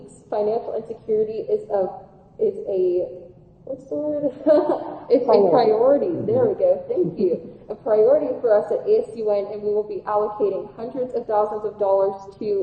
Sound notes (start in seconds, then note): 4.3 laughing